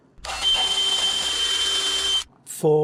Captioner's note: drill whirring